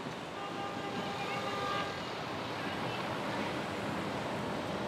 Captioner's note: horns honking